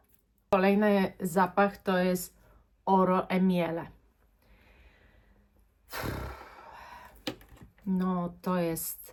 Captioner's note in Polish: westchnienie; parsknięcie